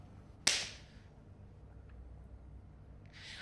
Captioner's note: claps